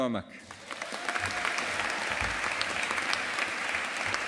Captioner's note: audience applauding